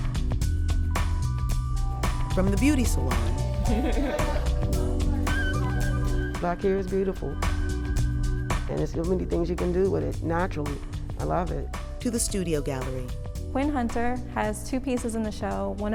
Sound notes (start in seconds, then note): 3.6 laughing